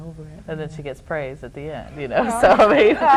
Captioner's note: laughs